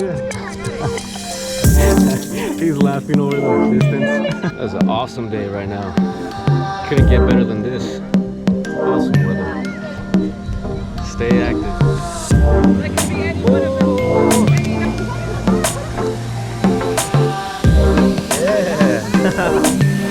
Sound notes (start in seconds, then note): 0.1 laughs; 4.0 laughs; 17.9 laughs